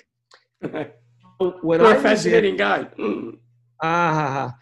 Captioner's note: laughing